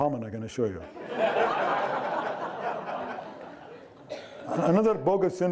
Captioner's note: audience laughing